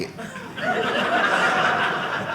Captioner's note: audience laughing